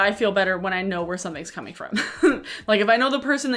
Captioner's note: chuckles